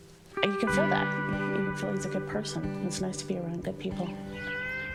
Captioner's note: none